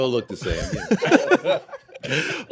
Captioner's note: laughter